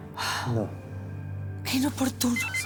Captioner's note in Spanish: Suena el celular